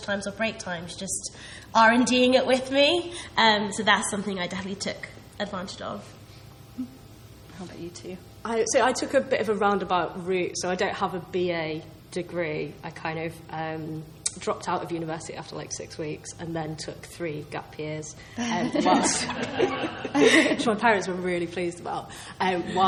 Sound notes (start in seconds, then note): 18.4 laughs